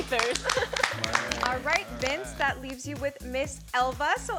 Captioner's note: giggles